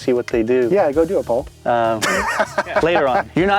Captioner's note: laughs